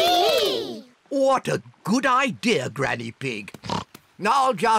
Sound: oinks

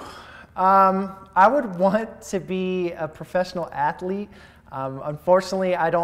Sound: inhales

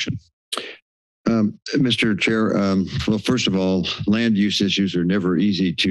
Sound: inhales

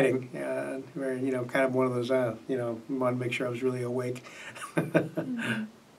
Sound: laughs

